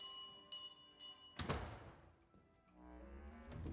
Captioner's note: doorbell; door slams